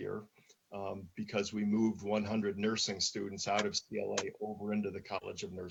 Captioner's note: murmurs